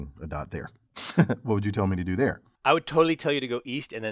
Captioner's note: laugh